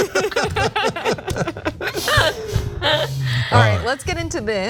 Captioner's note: laugh